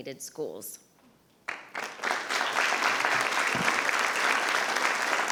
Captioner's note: attendees applauding